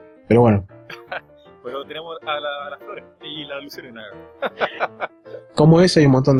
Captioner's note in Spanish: risas